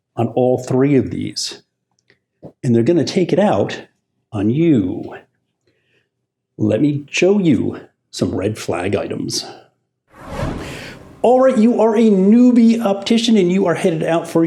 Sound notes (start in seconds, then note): 10.1 graphics whoosh